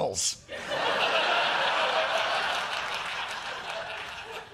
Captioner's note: laughter